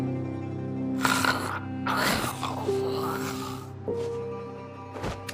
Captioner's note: zombie growling